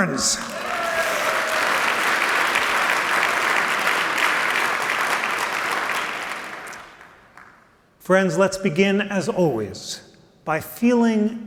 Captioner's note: applause